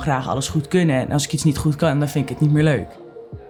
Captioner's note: none